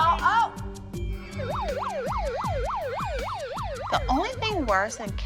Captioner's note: siren sounds